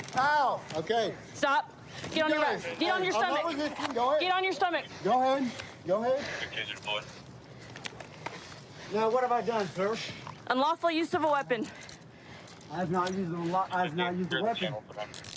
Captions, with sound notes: Ow! OK. Stop. Get on your-- - You guys-- - Get on your stomach. Hey, I'm not resisting. Go ahead. - Get on your stomach! - Go ahead. Go ahead. [radio cahtter] Now, what have I done, sir? Unlawful use of a weapon. I have not-- I've not used a weapon.